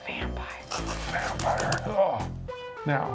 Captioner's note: grunts